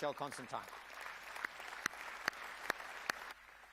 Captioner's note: applause